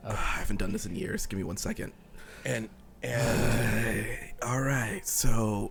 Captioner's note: sighing